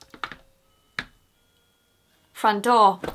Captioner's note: doorbell rings